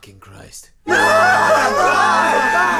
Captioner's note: captives screaming